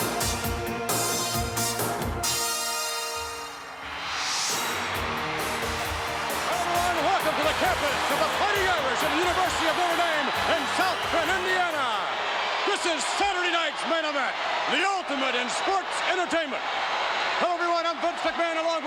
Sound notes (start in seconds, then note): 0.4 upbeat music continues; 3.9 crowd roars